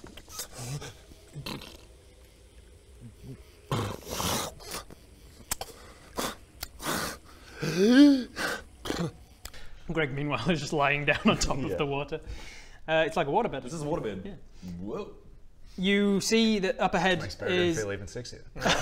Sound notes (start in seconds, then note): 3.6 snores; 6.1 snort; 7.5 wheeze